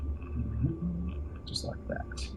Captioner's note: humming